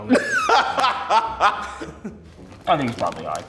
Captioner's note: laughs